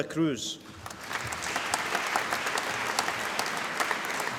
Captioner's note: applause